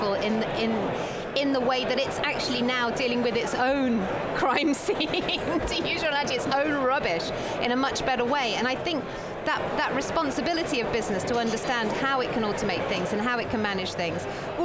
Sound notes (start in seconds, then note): 4.6 laughing